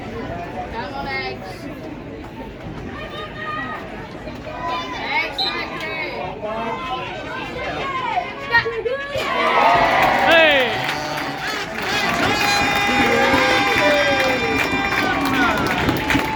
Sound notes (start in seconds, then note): 5.3 whistle blows; 9.1 loud cheers